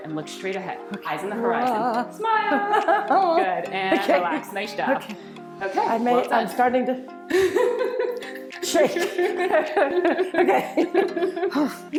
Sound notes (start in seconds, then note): 2.4 laughing; 7.3 laughing